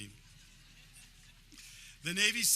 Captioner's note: audience laughing